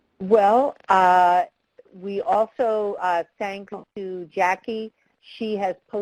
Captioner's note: voiceover